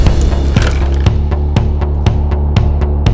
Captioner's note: crashing sound